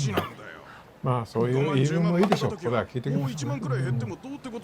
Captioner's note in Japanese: 笑い